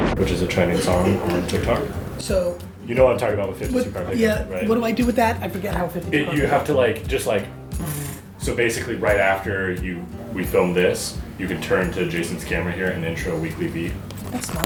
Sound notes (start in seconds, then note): 7.7 mimics cards shuffling